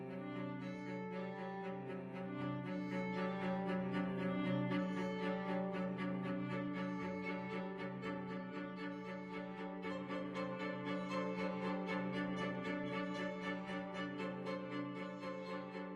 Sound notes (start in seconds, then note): none